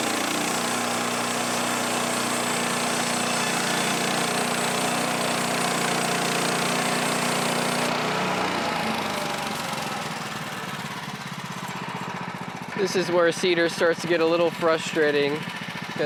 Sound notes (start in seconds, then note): 6.7 motor running